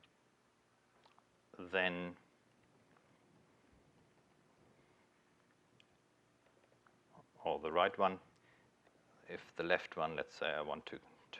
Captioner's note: pause